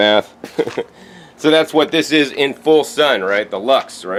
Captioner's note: chuckles